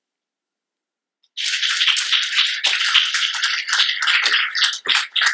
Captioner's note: applause